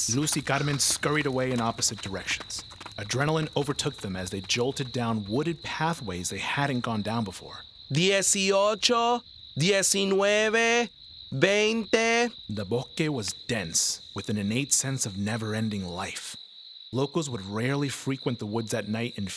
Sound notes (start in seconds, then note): 0.0 speaking Spanish; 7.9 speaking Spanish; 12.5 narrator speaking Spanish